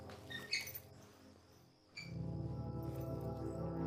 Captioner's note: object squeaks; soft somber music